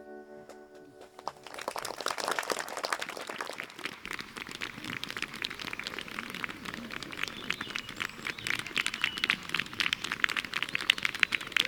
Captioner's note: audience applause